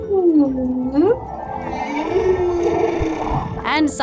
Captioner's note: humming